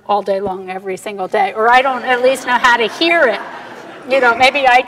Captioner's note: audience laughter